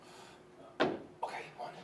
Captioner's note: loud tap